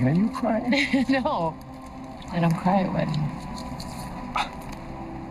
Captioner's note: laughing